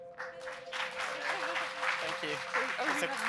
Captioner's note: audience members applauding